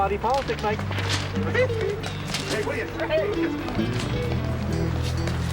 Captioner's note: Kravitz laughing